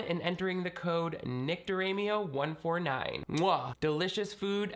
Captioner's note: smacks lips